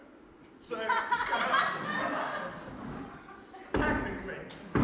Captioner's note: laughter